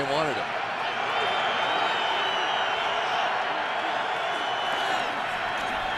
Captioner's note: cheering